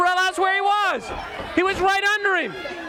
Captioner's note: crowd cheering